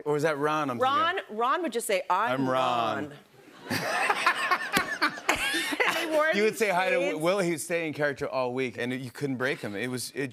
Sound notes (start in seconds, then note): 3.4 laughter